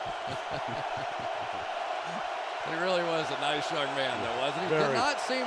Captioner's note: laughs